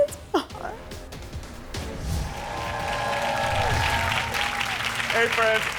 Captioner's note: audience clapping